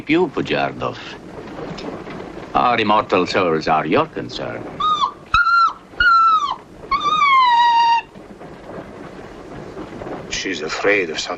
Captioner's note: screaming